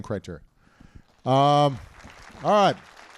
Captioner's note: applause